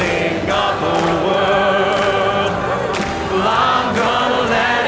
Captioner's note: applause